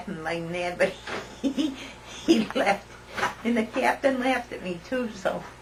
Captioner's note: laughter